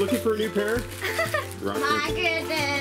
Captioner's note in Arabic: يضحك